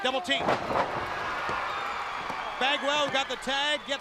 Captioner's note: crowd cheering